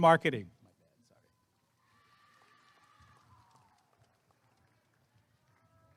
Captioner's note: applause and cheering